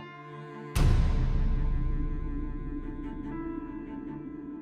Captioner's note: gunshot blasting; tense orchestral music continues